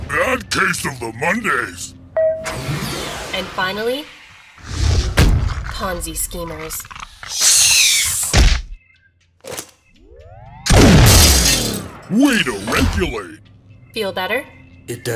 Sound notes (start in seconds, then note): 10.7 gunfire